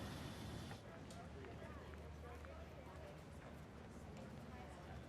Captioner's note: students chattering